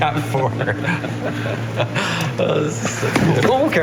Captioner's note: laughing